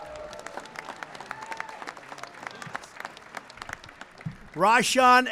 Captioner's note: applause